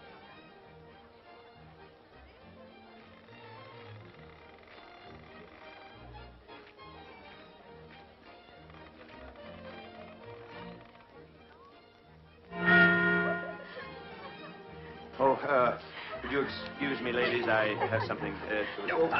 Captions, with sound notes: (clock chiming) Would you excuse me ladies, I have something...